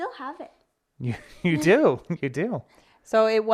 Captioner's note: laughs